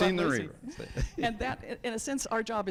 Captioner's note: judge chuckles